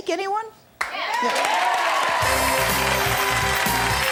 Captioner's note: audience cheering; jazzy music; audience applause